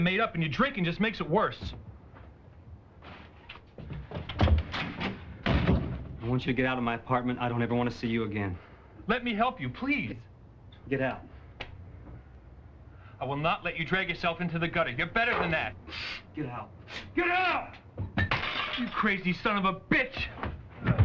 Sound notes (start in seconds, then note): 18.1 glass shattering